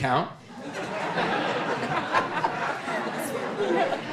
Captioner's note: audience laughing